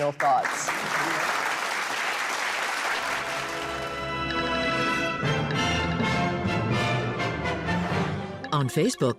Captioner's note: applause